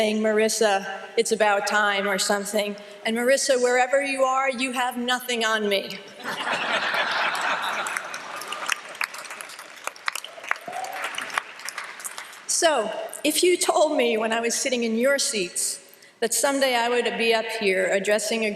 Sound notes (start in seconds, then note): 6.2 laughter and applause